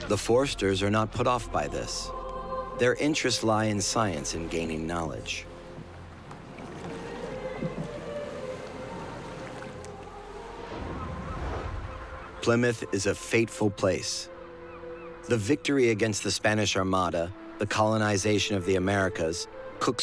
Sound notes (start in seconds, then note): 10.8 seagulls caw